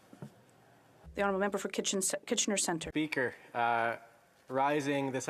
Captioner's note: speaking French